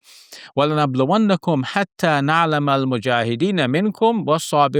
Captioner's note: speaks Arabic